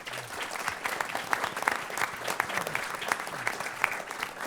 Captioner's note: applause